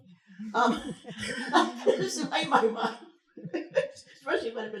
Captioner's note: chuckles